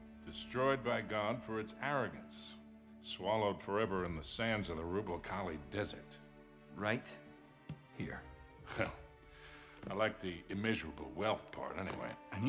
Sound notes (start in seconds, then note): 8.6 laughing